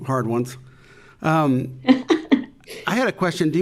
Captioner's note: laughing